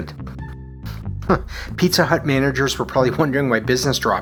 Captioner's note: chuckles